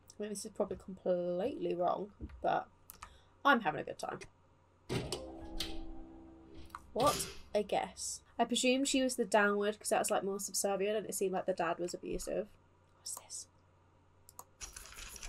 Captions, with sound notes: this is probably completely wrong but I'm having a good time what, a guess! I presume she was the downward because that was like more subservient and it seemed like the dad was abusive *whispers* what's this?